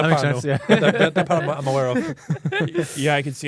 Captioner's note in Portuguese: risos